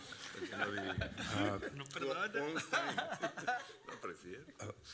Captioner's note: laughing